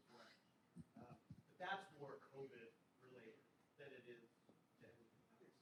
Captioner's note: faintly speaking